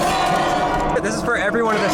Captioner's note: banging on music notes